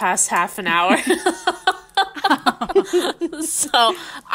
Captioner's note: laughing